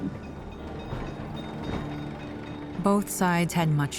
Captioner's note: engine puttering, trolley clanging